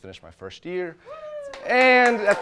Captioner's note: audience cheers